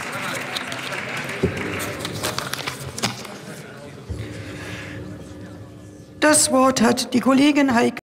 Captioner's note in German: Beifall bei der AfD